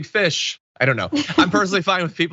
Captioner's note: laugh